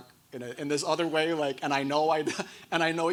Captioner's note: chuckles